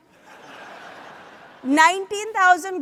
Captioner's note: audience laughs